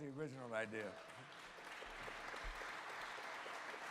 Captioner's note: applause